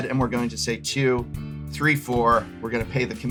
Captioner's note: counting